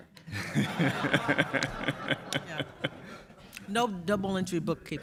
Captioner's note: audience laughs